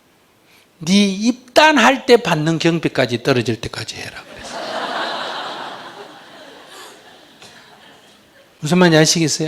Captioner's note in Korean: 청중 웃음